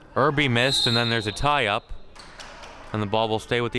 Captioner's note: whistle chirping